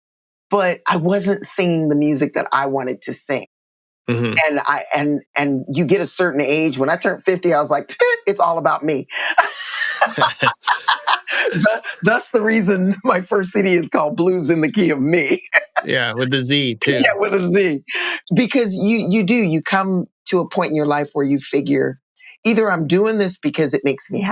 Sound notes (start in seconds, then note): 9.2 laughter; 16.7 applause